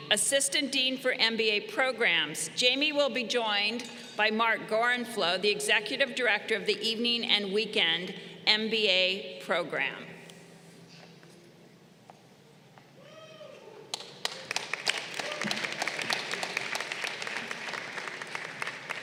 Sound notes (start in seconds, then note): 13.9 crowd applauding